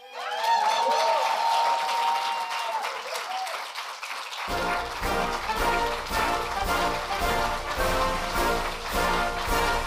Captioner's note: applause and Music